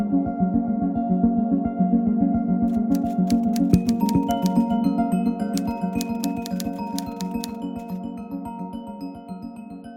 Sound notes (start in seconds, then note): 2.7 letters lightly clicking